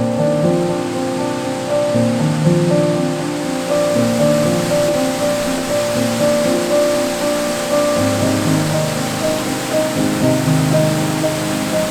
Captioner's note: Ramona Falls cascading